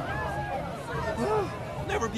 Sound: sighing

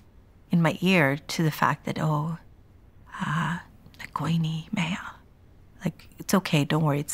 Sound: speaks Punjabi

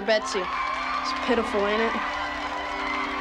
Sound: all cheering; all applauding; gentle music

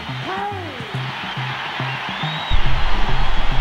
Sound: crowd cheering

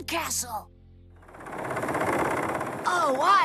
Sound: engine Rumbling

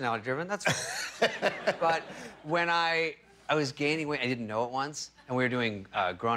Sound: laughter

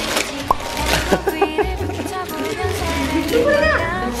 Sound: laughing

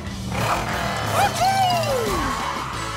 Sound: cheering

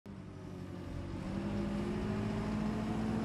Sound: tractor rumbling

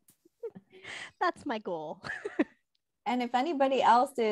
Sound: laughs

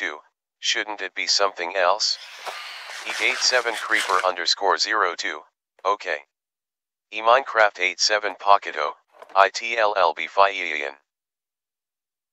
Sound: footsteps

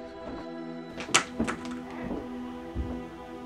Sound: knife hits floor; knife hits floor again

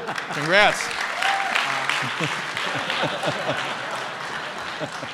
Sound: applause

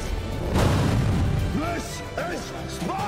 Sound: explosion booming

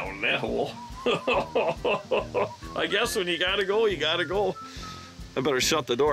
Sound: laughing

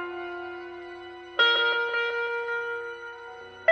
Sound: none

